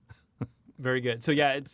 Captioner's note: chuckles